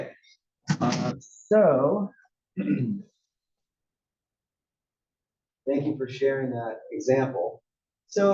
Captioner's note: cough